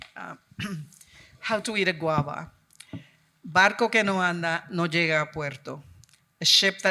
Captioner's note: speaking in Spanish